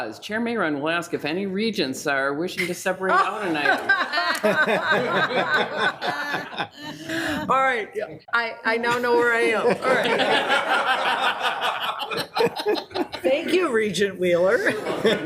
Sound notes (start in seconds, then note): 6.6 laughs; 9.0 group laughs